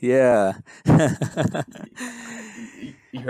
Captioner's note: laughs